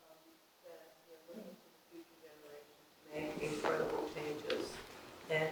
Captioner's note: speaking faintly